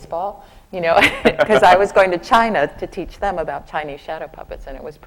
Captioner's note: laughs